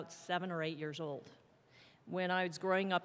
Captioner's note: none